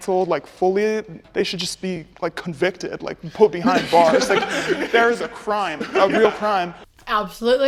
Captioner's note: laughter